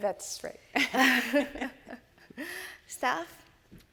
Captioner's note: both chuckle